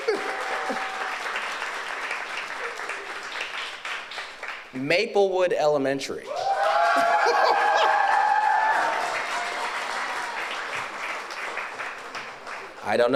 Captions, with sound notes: (audience applauds) Maplewood Elementary. (audience cheers)